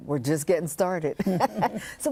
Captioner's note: laughter